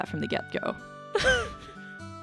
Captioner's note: laughs